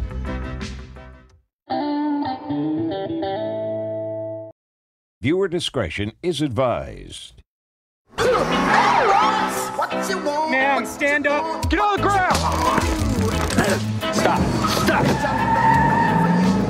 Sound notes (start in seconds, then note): 12.3 taser gun crackles; 15.1 tire scscrehehes